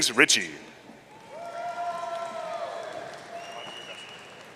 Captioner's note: audience cheering